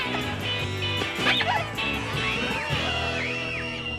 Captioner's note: kids screaming